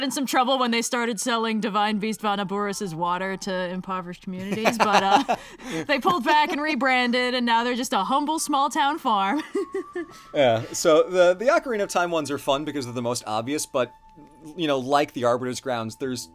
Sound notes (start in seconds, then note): 4.4 laughs; 9.5 laughs